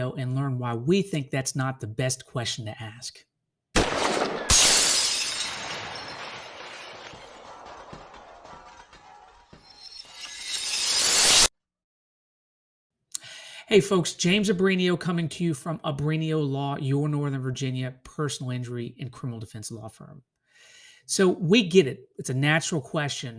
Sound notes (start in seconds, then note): 3.7 gun shot; 3.8 glass breaking